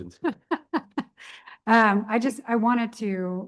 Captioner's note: chuckling